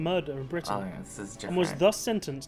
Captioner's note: voice-over